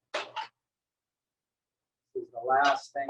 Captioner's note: silence